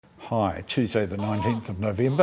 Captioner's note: baby sounds